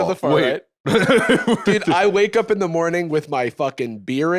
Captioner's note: laughs